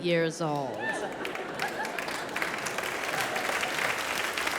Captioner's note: audience applause